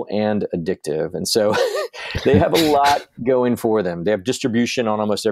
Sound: laughs

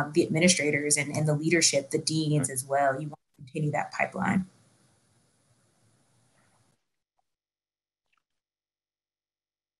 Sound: silence

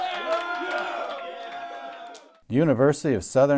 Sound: cheering

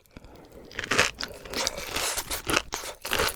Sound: stretching cheese

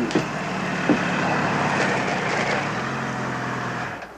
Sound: motorbike revs

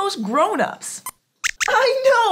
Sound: squeaks squeaks

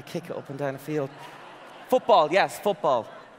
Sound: audience laughing

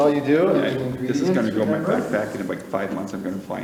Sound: overlapping chatter

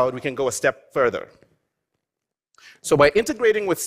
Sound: none

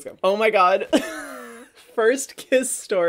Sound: laughs

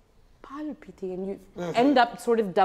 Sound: speaks in foreign language

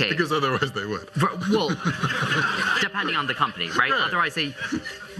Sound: laughter

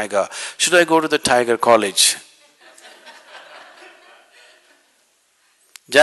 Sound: laughter; 笑聲

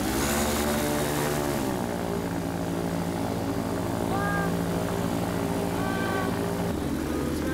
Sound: the plane is taking off

